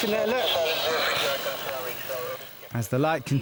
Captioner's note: radio static muffling